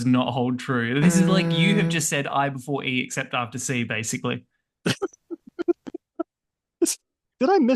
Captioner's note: laughter